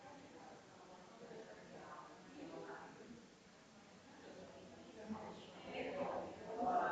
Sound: people chattering distantly continues

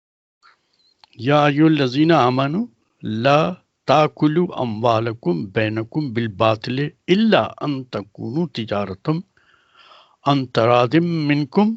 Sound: recites in arabic

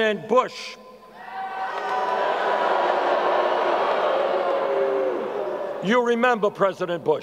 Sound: crowd boos

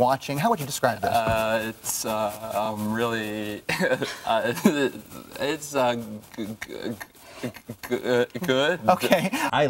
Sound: laughs

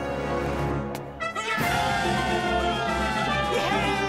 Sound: cheering

